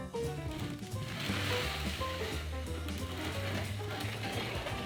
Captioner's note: pan sliding